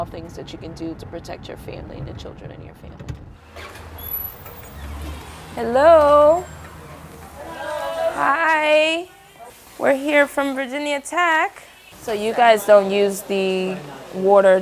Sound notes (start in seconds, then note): 3.4 sound of door opening